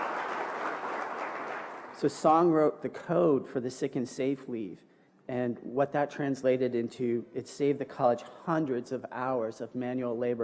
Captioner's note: applause